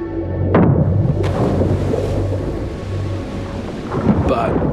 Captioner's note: harpoon explodes